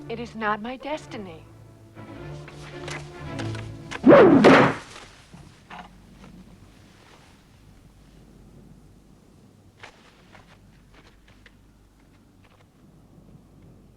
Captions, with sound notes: It is not my destiny. (Dramatic music) (Arrow whooshes)